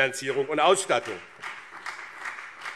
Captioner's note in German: Beifall BÜNDNIS 90/DIE GRÜNEN und CDU